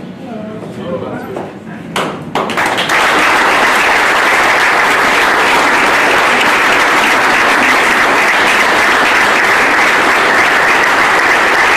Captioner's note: applause